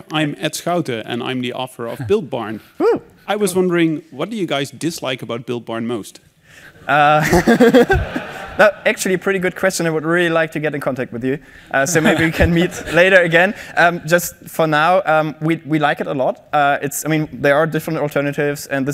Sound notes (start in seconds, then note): 7.1 laughing